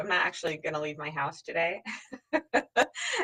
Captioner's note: laughs